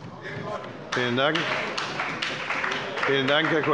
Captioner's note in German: Beifall bei Abgeordneten der CDU und der SPD